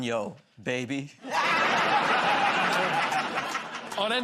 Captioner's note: laughter